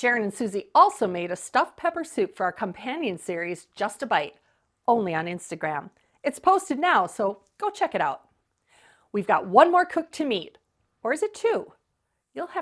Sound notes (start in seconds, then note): none